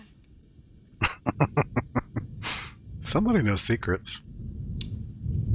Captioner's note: chuckling